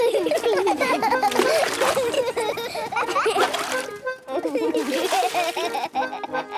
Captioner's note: excited laughter